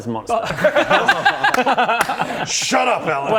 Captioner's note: laughs in taking that bet